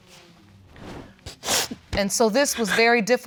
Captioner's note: sniffles